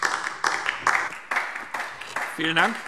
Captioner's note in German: Beifall DIE LINKE